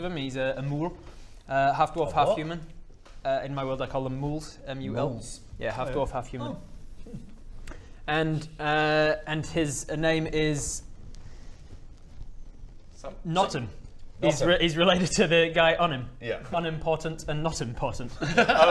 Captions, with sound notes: he's a mul - half dwarf half human - a what? In my world I call them muls, m u l yeah, half dwarf half human Hmmm and err and his name is *thinking noises* Notim he's related to the guy, Unim Yeah Unim Portant and Notim Portant